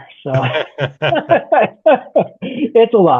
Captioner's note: laughing